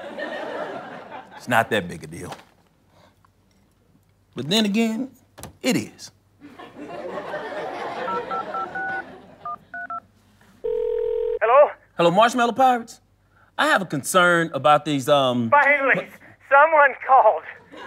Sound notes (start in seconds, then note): 0.0 audience laughter; 6.4 audience laughter; 9.4 dialing beeps; 10.6 phone ringing